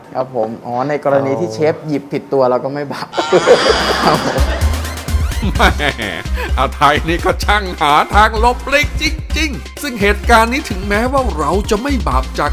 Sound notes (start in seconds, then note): 3.1 laughing sound